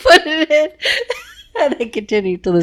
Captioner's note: laughs